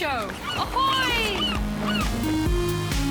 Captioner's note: waves crash, gulls call